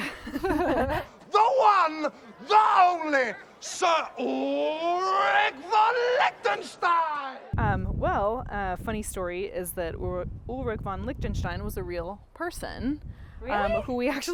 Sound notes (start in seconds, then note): 0.0 giggles; 6.9 cheers